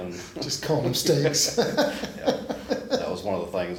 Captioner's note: laughs